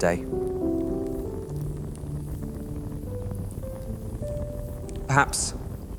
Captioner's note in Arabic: يخفق القلب بسرعة